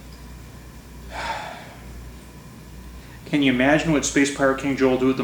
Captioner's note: sighs